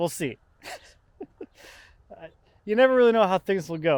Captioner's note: laughs